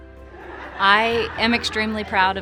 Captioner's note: people laughing